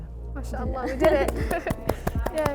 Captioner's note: speaks in foreign language; hands clapping